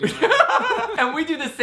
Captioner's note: laughing